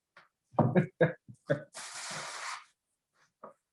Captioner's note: chuckles